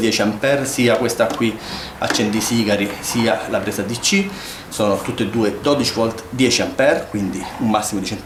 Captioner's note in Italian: sbuffare